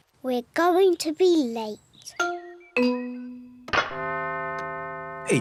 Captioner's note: clock chimes